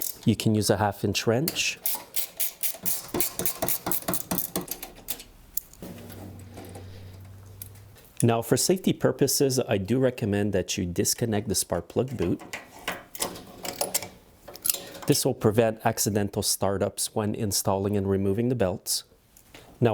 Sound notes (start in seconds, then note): 1.8 wrench clicking